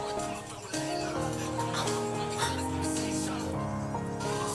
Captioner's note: also crying